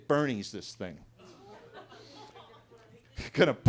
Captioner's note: attendees laughing